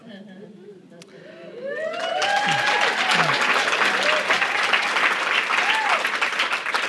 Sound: audience cheering; audience applauding

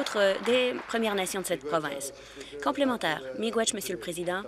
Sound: applause

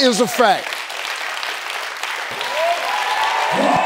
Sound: audience applauding

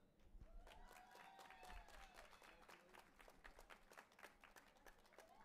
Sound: audience applauding and cheering

